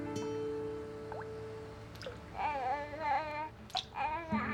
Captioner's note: Janey coos